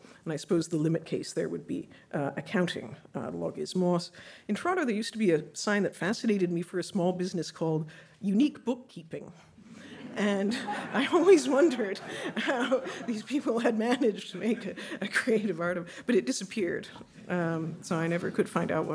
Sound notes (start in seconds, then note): 9.8 audience laughing